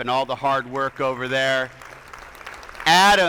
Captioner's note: attendees applauding